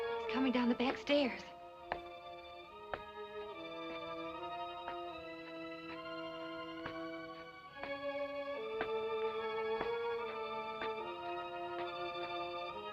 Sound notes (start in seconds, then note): 1.1 footsteps